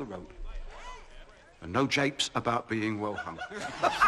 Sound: laughs

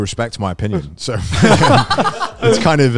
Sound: co-hosts laugh

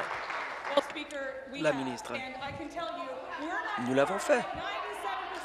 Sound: applause

